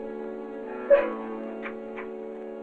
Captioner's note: sobbing